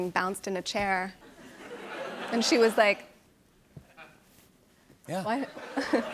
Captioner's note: laughter